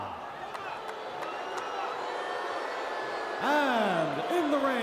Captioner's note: attendee applauding